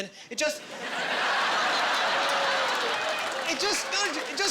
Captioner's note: laughing